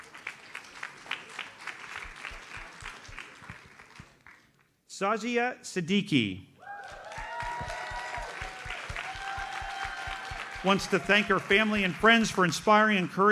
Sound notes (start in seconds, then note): 0.0 audience applauds; 6.6 audience cheers and applauds